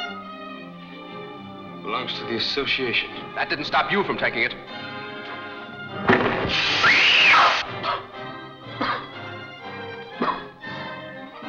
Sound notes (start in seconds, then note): 6.1 gun firing; 6.8 woman screams; 10.1 coughs